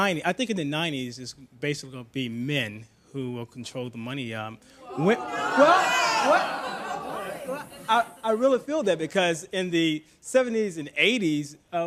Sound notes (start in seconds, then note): 4.8 audience starts to jeer